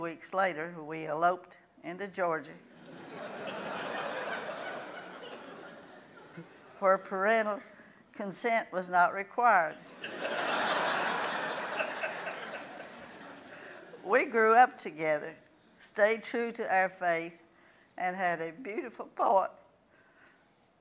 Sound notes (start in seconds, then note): 2.8 laughing; 9.8 laughing